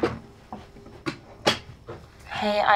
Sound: door closing

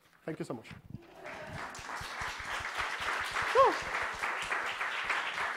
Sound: applause

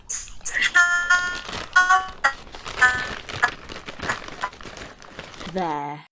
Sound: Zoom lag noise

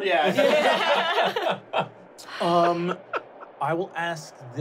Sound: laughing

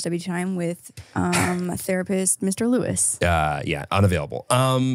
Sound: sighs

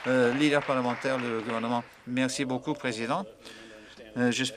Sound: applause

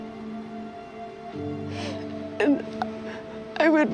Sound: sobs

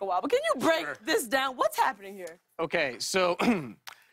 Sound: clears throat

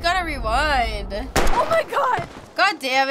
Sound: gun fires

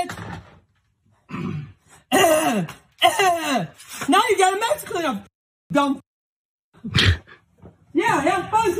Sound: cough

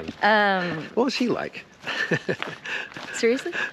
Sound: laughing gently

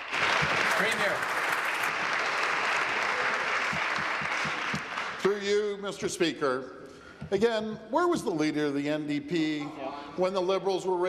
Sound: applause

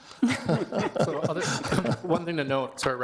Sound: people laughing

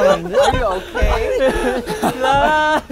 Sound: dying from laughing

